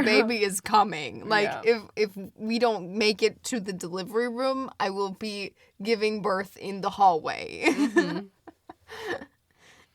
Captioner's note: laughs